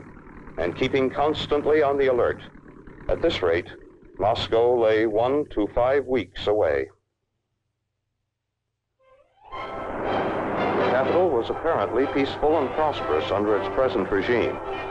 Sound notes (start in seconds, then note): 9.2 traffic whirring; 9.4 soft dramatic music